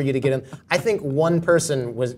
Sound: laugh

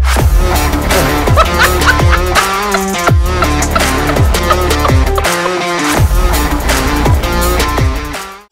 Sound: guffaw

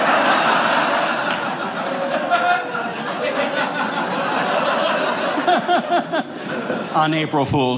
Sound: audience laughing

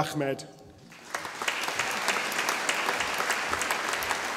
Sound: audience applauding

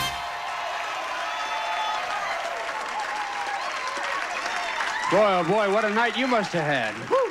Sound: audience applauding

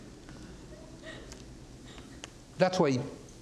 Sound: audience titters

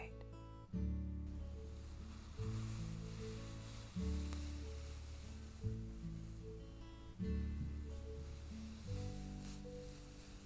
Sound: brushing sounds continue

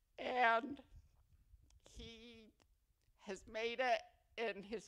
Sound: none

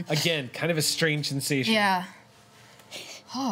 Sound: none

